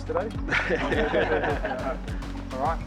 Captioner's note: all laugh